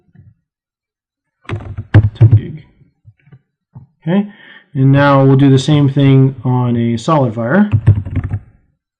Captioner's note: typing